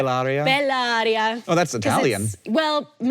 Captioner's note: speaking in foreign language